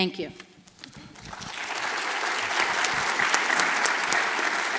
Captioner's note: audience applauds